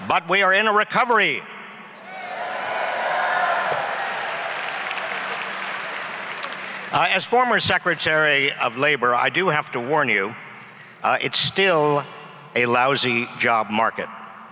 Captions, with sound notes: But, we are in a recovery! (applause and cheering) As former Secretary of Labor I do have to warn you it's still a lousy job market.